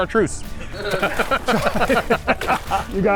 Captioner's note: everyone laughs